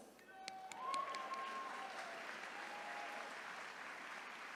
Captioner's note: attendees cheering